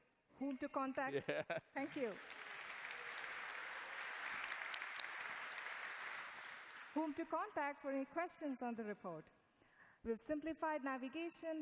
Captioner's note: applause